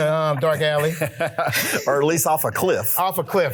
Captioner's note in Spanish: risas